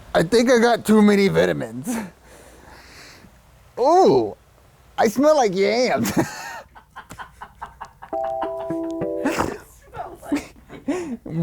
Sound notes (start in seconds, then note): 6.1 laughter in background; 8.1 relaxing music